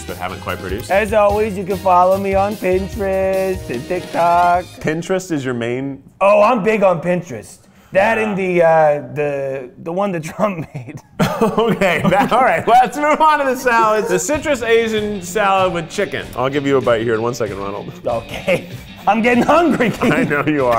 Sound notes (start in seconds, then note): 10.2 laughs; 15.8 rock music; 17.8 laughs